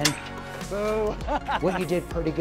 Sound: laughs

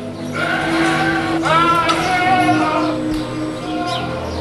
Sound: goats screaming

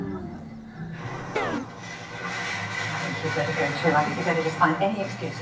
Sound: leader sound asleep

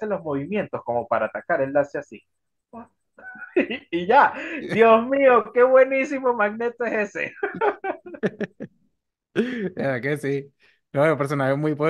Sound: laughs

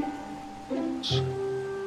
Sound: fire

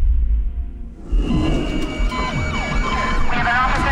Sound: beeping, sirens

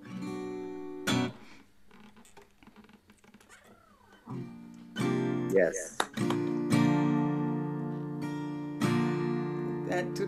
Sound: applause

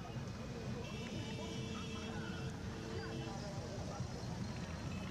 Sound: cars honking

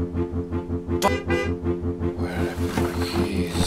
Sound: car horn honking

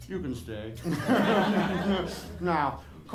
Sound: laughter

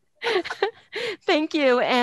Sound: laughing

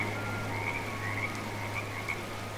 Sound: frogs croaking

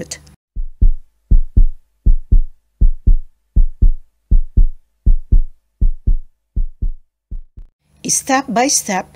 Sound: fast heart pounding sound effect

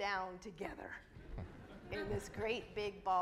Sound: audience laughs

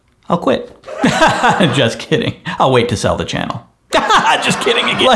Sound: laughing; laughing

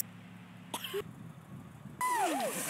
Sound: cough

